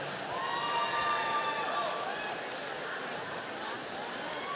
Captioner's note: audience cheering